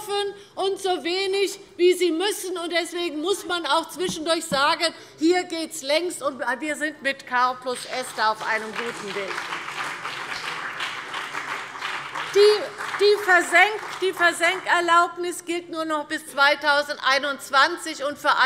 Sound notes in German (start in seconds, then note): 9.8 Beifall CDU und BÜNDNIS 90/DIE GRÜNEN